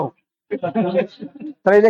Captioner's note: laughs